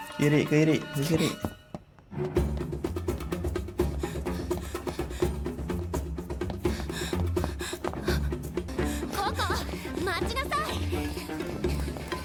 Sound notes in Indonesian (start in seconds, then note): 6.6 terengah-engah